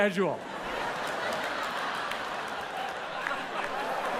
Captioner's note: audience laughs